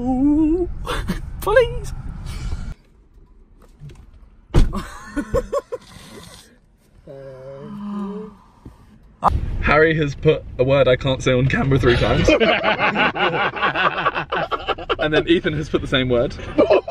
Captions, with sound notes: - Ooooh, please. (door bangs) (laughing) - Harry has put a word I can't say on camera, three times. (laughing loudly) And then Ethan has put the same word